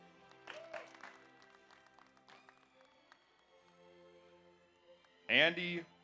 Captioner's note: audience applauds; audience cheers